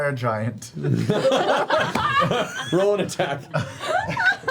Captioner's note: laughter